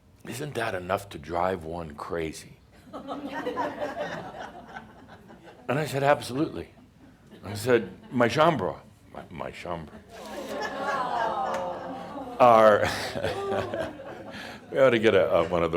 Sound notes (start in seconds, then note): 2.8 more chuckles; 10.2 audience says “Awww”; 12.0 Adamus chuckles